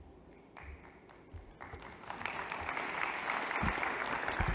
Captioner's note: applause